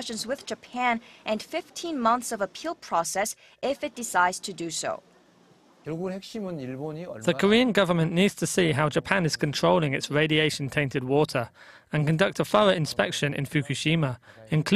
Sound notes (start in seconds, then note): 5.6 Korean